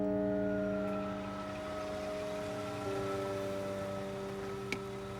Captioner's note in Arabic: هدير محرك السيارة